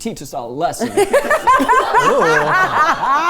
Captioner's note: everyone laughing